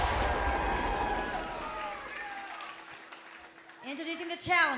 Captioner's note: cheers and applause